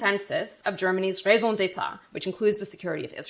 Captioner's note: speaking German